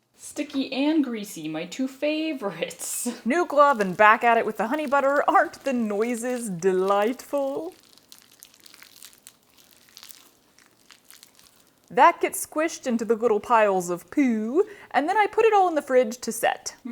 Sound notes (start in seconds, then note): 8.7 delightful squishing noises